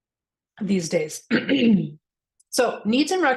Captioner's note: coughs softly